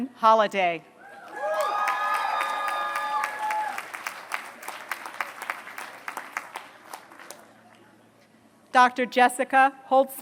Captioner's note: applause